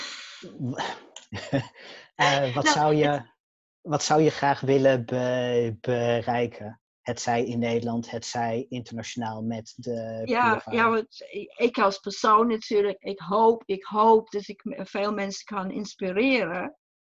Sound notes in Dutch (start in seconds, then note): 1.3 lacht